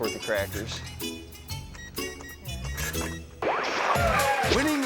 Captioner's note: melodic music; register beeping; screen static